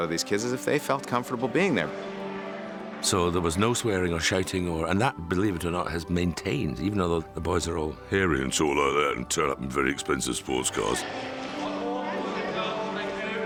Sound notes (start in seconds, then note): 7.7 in low voice